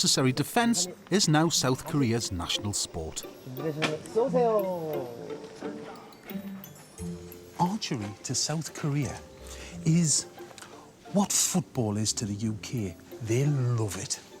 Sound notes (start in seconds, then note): 4.5 man speaking Korean